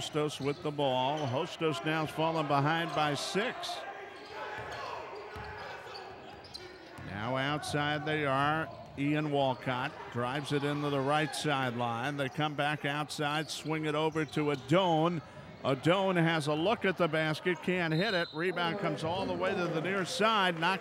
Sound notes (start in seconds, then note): 4.1 ball pounding; 4.1 yelling